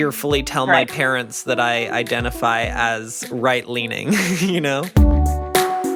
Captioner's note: laughs; rhythmic instrumental music